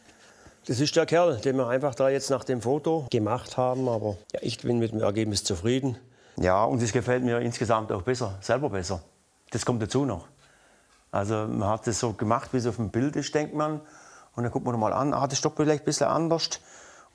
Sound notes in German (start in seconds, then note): none